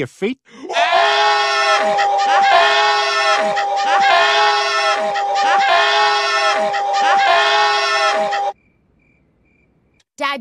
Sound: repeated shouting and laughing

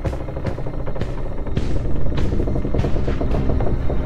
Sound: hallway creaking

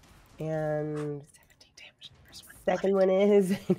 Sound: whispers

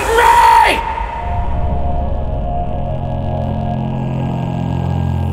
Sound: ominous humming

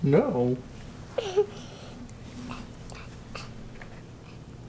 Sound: giggling

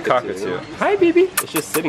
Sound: makes kissing noises

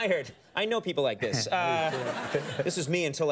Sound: studio audience laughs

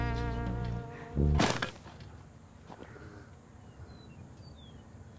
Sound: slow jazz music continues; shovel slices dirt

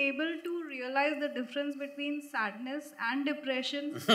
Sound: Sadhguru laughs

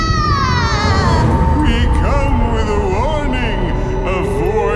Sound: echoing

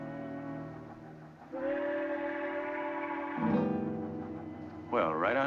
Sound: train Whistle Blows

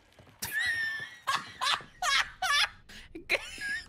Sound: wheezing Laughter

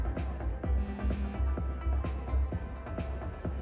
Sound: club music; phone buzzes; club music

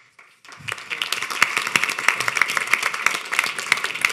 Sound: audience applauding

